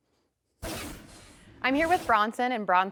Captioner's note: transition scrapes